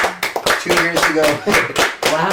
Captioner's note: laughs